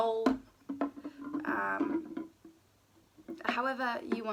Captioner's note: can rolling